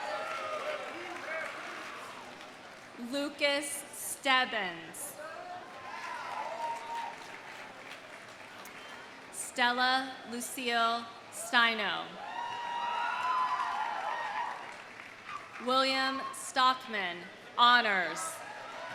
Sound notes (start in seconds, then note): 0.0 audience cheering; 0.0 audience applauding; 5.3 audience cheering; 5.3 audience applauding; 12.2 audience cheering; 12.3 audience applauding; 18.4 audience cheering; 18.4 audience applauding